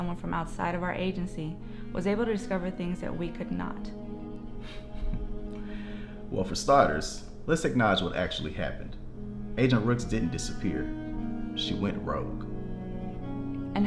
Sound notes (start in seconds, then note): 4.6 laughs